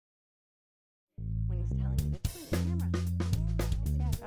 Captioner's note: chatter